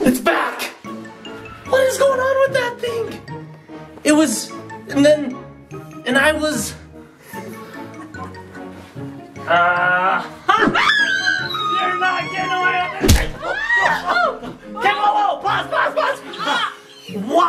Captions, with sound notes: Its back! What is going on with that thing? It was, and then, and I was. (screams) you're not gonna... (screams) game over, pause, pause, pause,